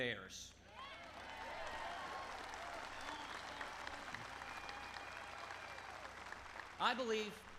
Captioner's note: applause